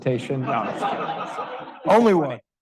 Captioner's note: audience laughing